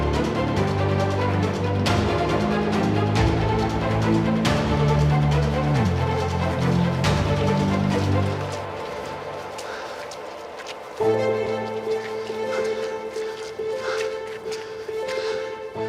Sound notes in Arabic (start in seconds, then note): 9.0 قطرات موسيقى; 10.8 موسيقى توتر; 12.0 لاهث